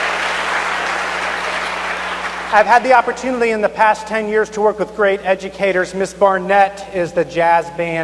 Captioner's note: cheers and applause